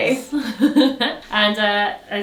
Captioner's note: laughs